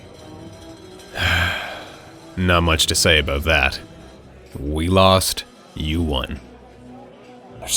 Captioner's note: sighs